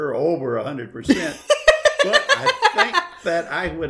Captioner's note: silly laughter